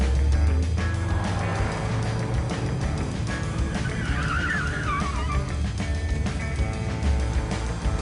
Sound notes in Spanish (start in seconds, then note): 4.7 Chirrido de neumáticos